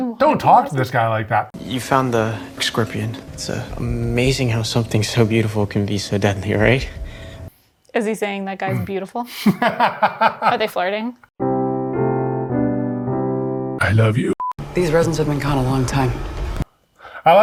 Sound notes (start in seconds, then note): 9.2 laughs; 11.4 romantic piano music